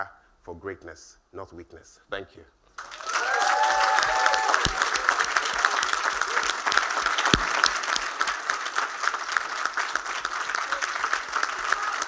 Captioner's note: cheers and Applause